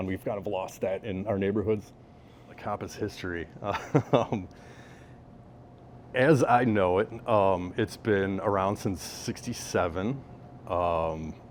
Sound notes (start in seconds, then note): 3.7 laughs